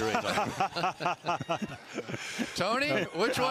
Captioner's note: laughter